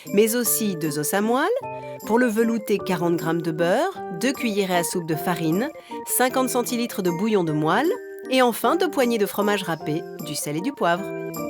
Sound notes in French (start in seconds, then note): none